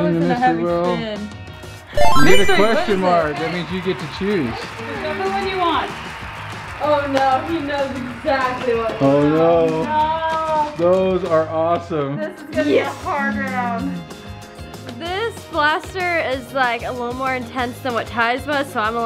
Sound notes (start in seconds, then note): 2.0 chimes